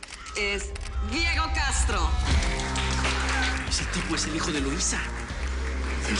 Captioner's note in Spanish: Aplausos